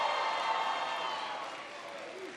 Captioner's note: applause